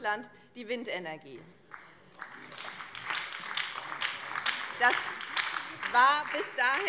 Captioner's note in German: Beifall